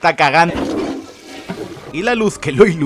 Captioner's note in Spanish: sonido de tirar de la cadena